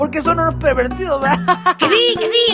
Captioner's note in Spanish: risa